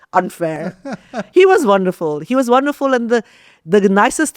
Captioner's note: laughs